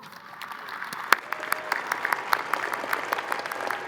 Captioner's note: crowd applauding